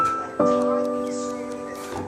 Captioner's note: ticking